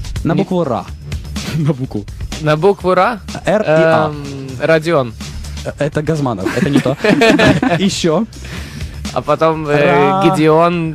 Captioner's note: everybody laughing